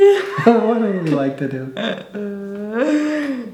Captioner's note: laughing